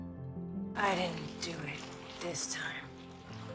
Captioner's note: voiceover